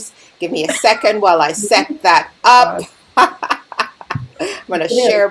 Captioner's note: laughing